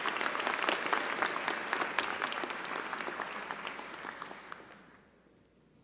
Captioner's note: applause